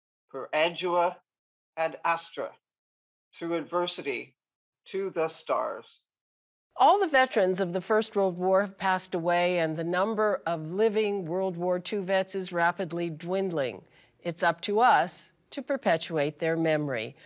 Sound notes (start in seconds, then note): none